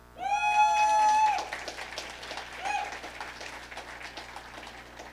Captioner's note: audience cheering